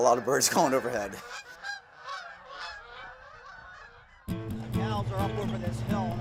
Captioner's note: sound of Birds Migrating